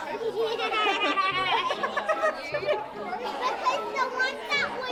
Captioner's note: Georgia laughing